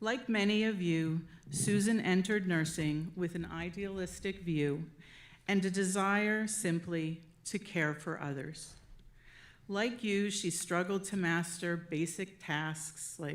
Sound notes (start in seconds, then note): none